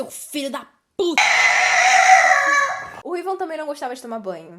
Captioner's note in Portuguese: Cachorro gritando